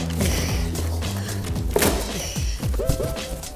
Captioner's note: silent laughter